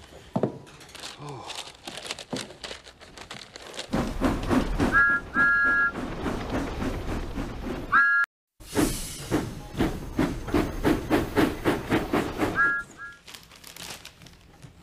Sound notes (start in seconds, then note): 3.9 chuffing; 4.8 thomas whistles; 8.8 thomas whistles